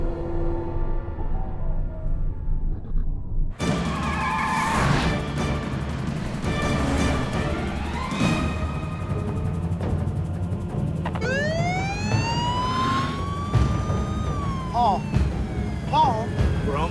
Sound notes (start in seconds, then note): 3.8 intense dramatic music; 11.0 police siren wailing